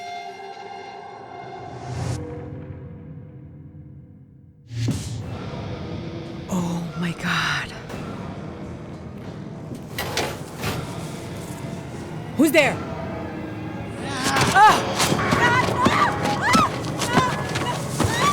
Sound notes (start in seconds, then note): 8.8 rustling; 14.0 growling; 14.2 creature screaming